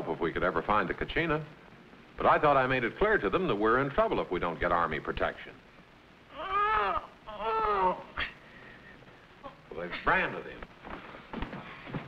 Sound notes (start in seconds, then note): 6.3 Chuka groans